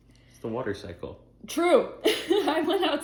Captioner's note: laughs